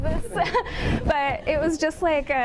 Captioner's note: audience laughing